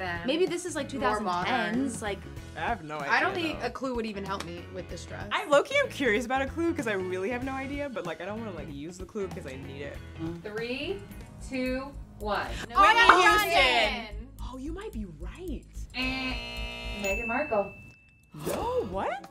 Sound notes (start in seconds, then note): 12.7 all yell; 15.9 buzzer